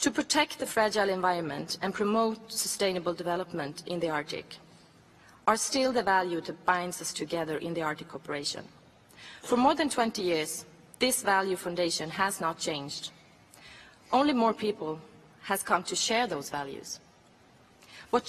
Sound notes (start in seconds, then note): none